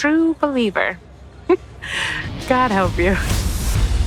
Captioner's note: chuckles